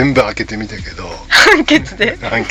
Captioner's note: laughs